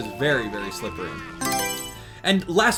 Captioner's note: Mario Selection Sound